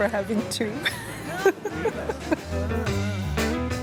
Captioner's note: laughs